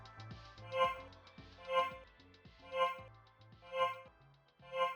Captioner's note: timer ringing